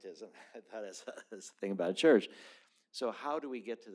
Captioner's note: laughter